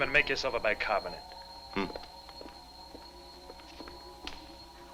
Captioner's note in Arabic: فريد يتذمر